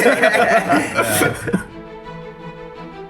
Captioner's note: laughter